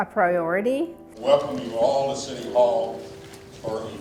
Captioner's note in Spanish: Voz en off